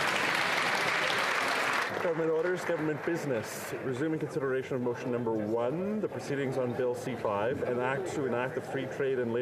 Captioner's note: applause